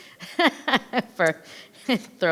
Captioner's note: laughing